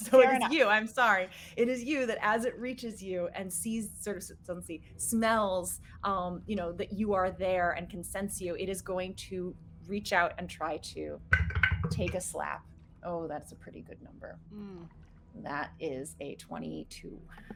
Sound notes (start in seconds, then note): 12.1 dice rattling